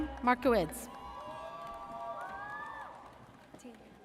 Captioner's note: audience cheers